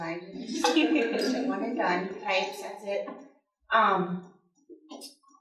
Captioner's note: audience laughing